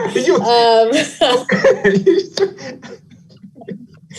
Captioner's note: laughing lightly